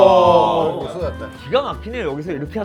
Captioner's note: a flood of exclamations